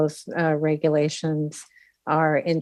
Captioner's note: speaking French